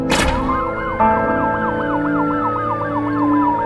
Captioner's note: sirens wailing